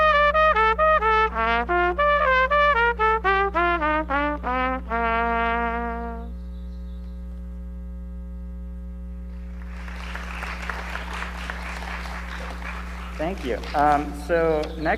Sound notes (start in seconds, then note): 9.3 audience applauds